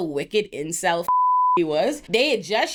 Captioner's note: beep